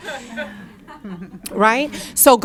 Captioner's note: audience laughing